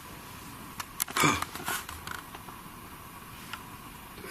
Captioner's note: gasping